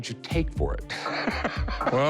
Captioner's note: laughs